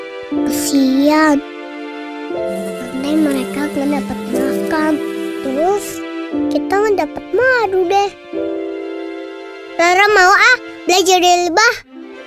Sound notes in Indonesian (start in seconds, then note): 2.3 suara lebah terbang